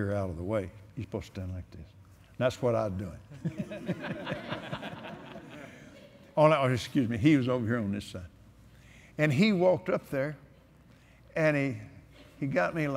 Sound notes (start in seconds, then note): 3.3 laughter